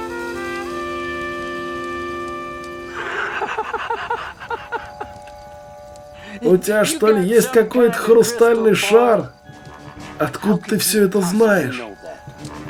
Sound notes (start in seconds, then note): 2.9 laughter